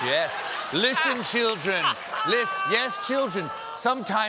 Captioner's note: laughter